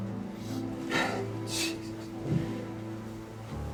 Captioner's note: scoffs; tense music continues